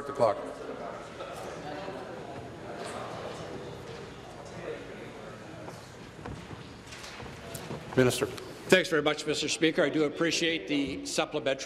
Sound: conversation din

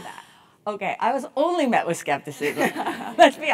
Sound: laugh

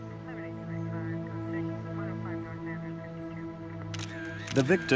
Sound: police radio chattering

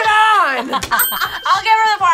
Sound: buzzer rings; both laugh

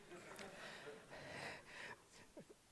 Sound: laughing

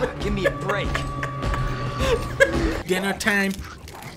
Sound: laughing

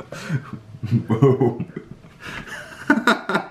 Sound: chuckles

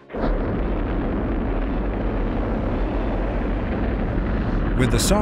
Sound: rocket engines roaring

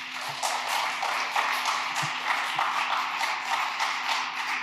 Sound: audience applauds

